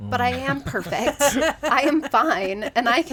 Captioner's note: laughs